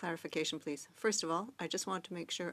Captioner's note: speaking French